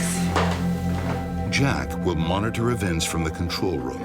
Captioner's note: voiceover